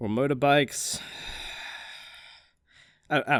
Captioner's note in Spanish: suspiro profundo